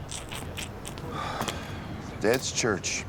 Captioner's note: Pearce sighs